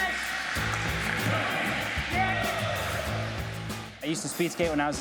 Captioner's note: cheering; mixed shouts